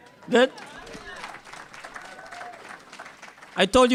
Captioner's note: cheers and applause